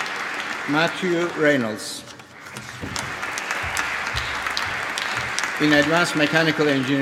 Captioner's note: applause